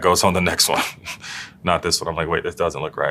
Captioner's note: laugh